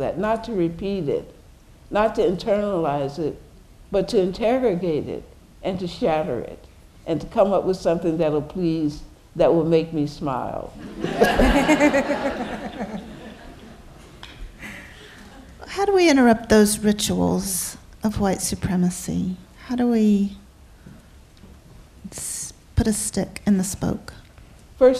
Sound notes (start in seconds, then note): 10.8 laughter